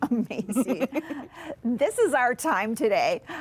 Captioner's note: laughs